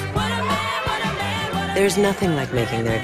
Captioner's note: laughing